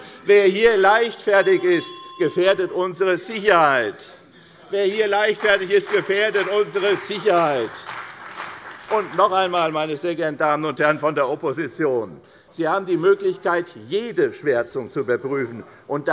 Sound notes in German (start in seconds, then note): 5.1 Beifall bei der CDU und dem BÜNDNIS 90/DIE GRÜNEN